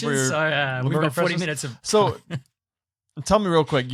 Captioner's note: chuckles